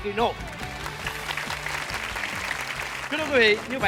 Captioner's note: applause